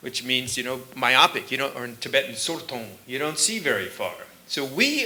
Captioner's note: sanskrit; tibetan